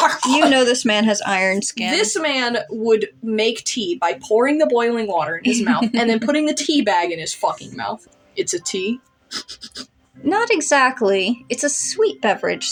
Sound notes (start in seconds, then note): 5.4 laugh; 9.3 sniff